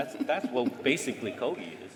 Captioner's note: laughter